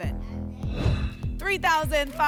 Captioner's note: whoosh